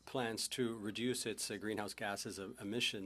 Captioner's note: speaking French